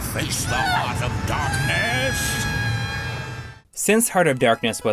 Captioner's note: game audio